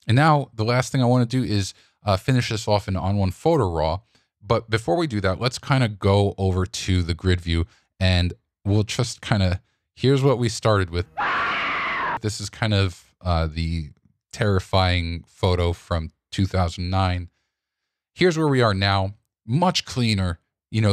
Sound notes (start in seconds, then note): 11.1 screaming